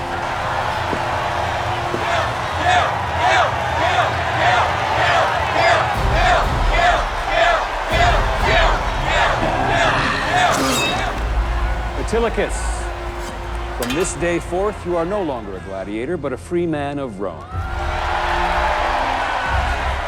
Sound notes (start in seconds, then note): 1.5 crowd; 17.5 crowd cheering